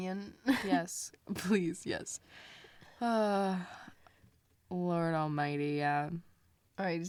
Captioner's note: sighs